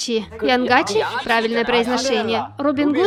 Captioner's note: mispronunciation